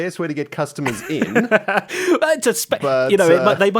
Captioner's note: laughs